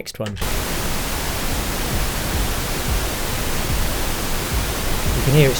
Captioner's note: pink noise crackling